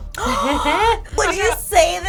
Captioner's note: gasps